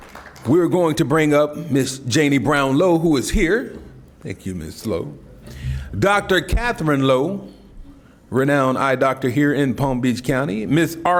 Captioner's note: applause